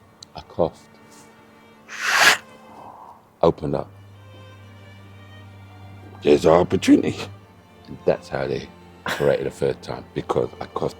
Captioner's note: coughs